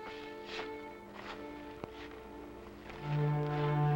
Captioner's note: soil crunching